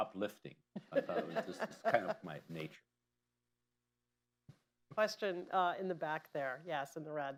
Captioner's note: laughter